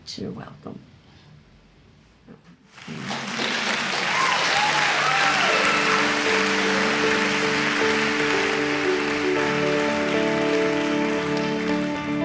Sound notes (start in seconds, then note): 2.8 clapping; 2.8 soft music